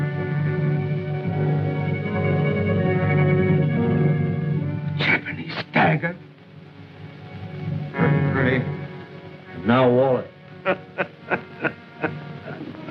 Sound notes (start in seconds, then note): 10.6 laughing